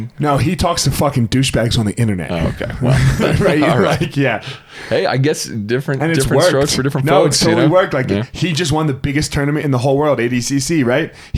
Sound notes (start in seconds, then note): 2.2 laughs